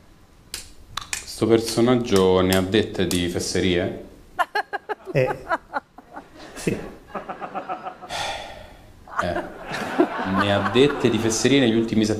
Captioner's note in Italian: Risate